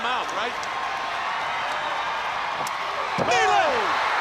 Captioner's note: crowd cheering